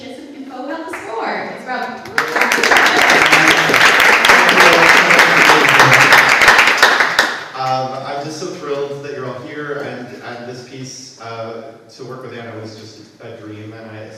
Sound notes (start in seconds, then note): 2.0 audience applauds